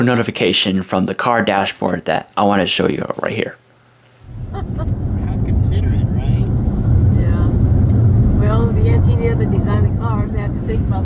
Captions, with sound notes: notification from the car dashboard that I want to show you right here. [ Mom laughing ]